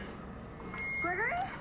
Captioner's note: feedback